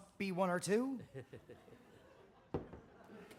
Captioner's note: joe chuckles